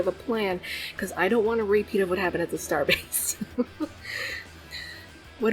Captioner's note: laughs